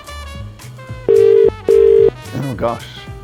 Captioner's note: dial ringing